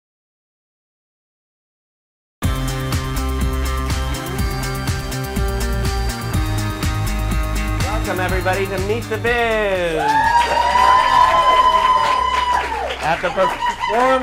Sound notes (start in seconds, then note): 9.8 applause